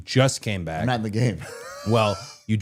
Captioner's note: laughing